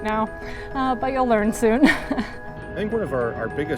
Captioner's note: chuckles